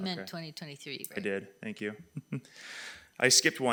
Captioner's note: laughs